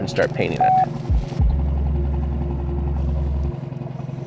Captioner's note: electronic beeps